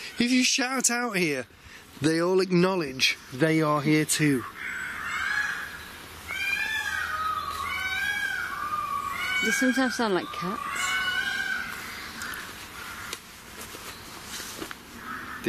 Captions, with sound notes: if you shout out here, they all acknowledge they are here too. (peacocks squawking) - They sometimes sound like cats.